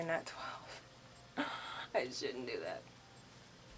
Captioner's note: cries